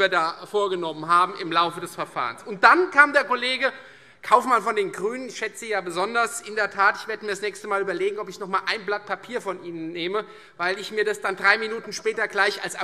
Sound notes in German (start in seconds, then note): none